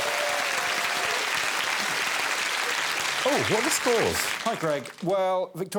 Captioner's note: audience applauding